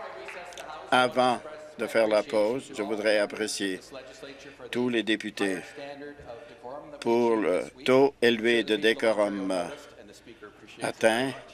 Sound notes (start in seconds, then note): 0.1 applause